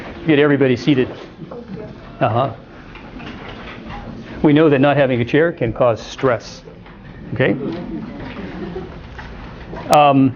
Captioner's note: laughter